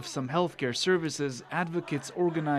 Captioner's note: chants